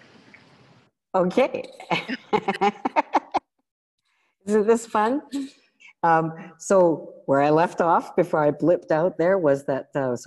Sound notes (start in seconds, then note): 1.8 laughter